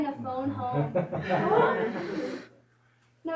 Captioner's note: laughter